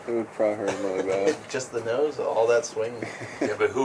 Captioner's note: marine 2, chuckling